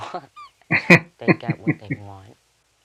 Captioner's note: chuckling